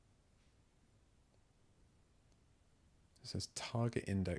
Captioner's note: silence